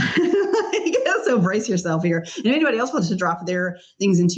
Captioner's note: laughs